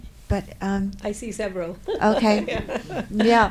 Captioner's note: laughs